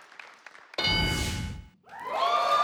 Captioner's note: ding; audience cheers